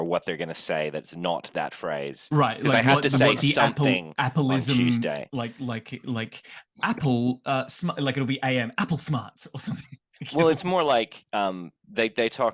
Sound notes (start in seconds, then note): 10.0 laughs